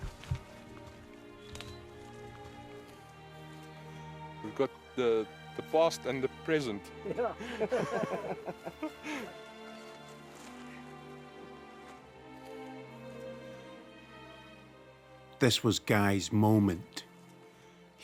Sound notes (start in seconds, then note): 0.2 somber classical music; 7.0 hunters laughing; 10.1 somber classical music continues